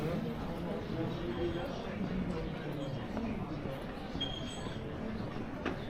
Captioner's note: people chattering